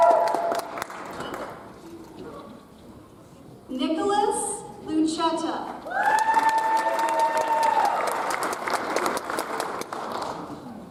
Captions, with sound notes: Nicholas Lucheta. (audience applauds)